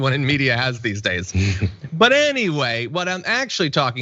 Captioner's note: laugh